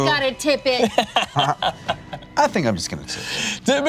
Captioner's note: laughs